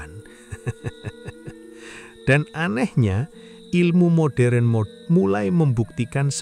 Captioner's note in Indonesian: tertawa